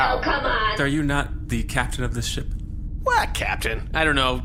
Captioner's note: noise like saying ‘well,’